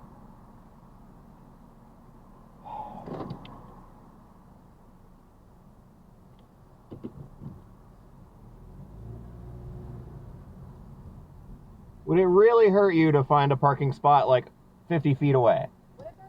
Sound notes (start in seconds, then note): 2.6 sighh* I give up